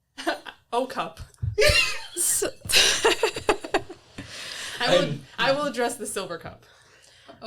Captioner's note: sputters